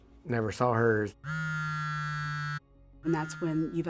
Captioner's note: phone vibrating